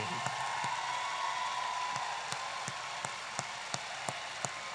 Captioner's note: audience applauding and cheering